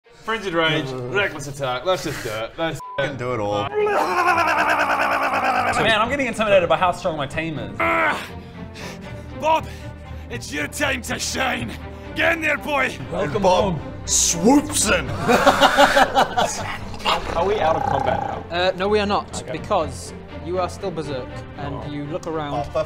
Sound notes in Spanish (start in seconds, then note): 16.6 gruñidos